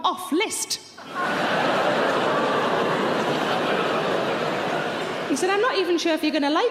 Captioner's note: audience laughing loudly